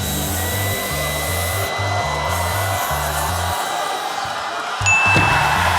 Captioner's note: audience yells; cheering